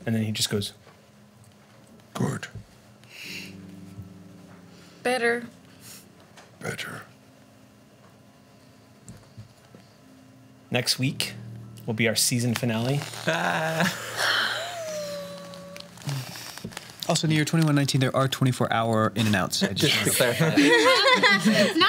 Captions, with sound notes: And then he just goes, good. - Better. - Better. - Next week will be our season finale. (quiet cheers) - Also in 2119 there are 24 hour In and Outs. (laughs)